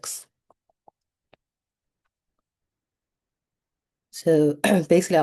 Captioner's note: mouse clicking